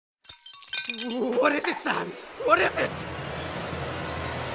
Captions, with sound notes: [Glass shattering] W-W-W-What is it, Sans?? WHAT IS IT?!?!?!! [SUSPENSEFUL MUSIC]